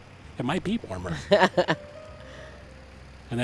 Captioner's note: laughs